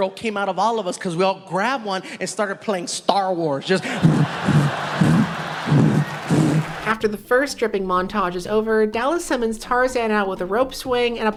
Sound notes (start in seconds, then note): 4.9 dick slapping noises